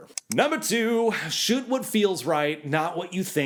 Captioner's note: clicking